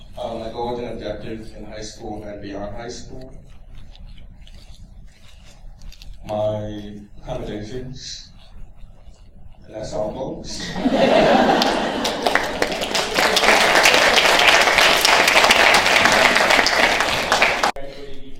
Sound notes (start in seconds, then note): 10.5 laughter; 14.6 applause